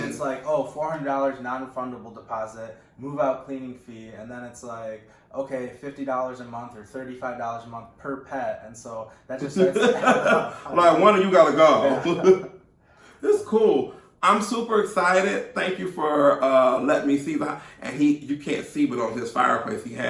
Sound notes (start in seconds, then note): 9.5 laughing